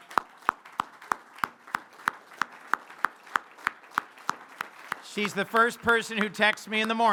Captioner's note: applause